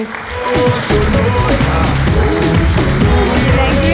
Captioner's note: applause